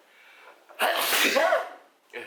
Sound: big sneezing!

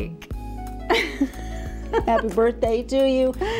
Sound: laughs

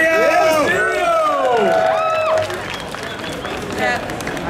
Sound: audience clapping

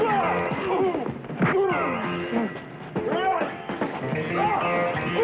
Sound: men grunting; punches thudding

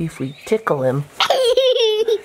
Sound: laughing

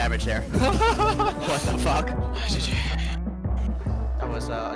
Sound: laughing

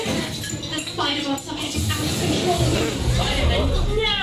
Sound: in English, then French

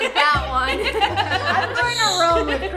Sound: laughing

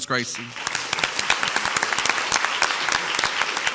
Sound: crowd applauds

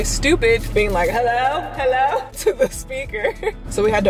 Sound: giggles

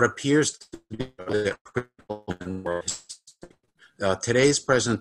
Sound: crackling drowns out

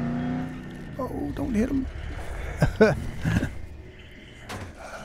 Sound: chuckle

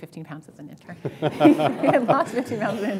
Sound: laughter

